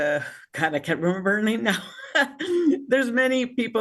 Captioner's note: laughing